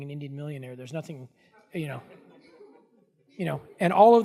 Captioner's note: audience laughing